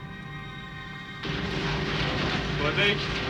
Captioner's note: speaking german